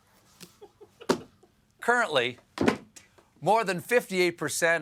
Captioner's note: laughter